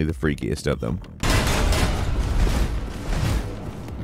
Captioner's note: ball crashing